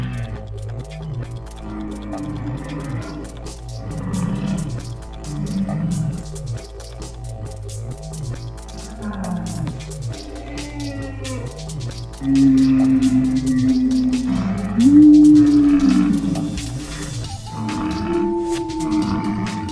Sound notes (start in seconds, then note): 2.4 various dinosaur sounds